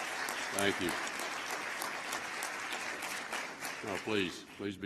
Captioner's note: applause